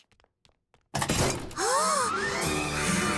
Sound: gasping

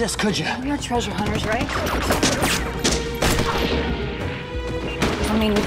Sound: guns blasting

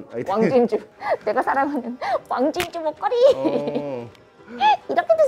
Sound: laughs

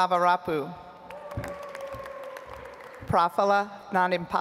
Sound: audience applauds

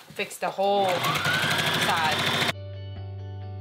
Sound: machine clanking; upbeat music

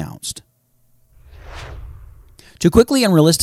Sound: swooshes

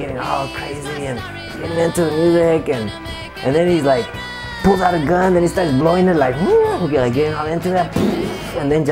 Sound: makes gunshot sound

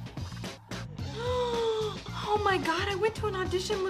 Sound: soft upbeat music continues; gasps

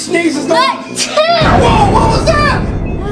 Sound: sneezing

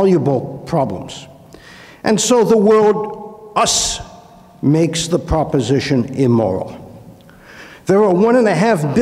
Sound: inhales

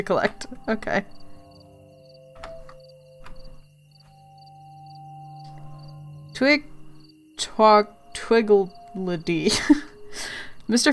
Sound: laughs

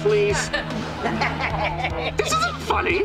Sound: laughing

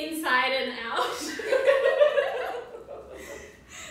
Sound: laughter

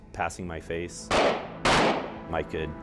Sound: gunshots

